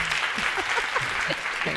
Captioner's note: audience applauding; laughing